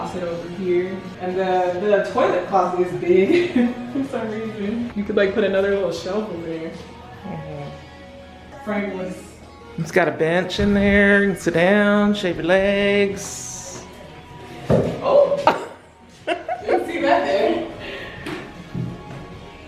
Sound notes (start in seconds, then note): 14.6 bench thumps; 15.4 laughs